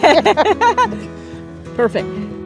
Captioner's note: both laugh